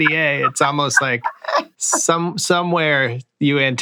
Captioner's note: laughter